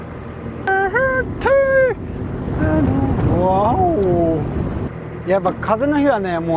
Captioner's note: humming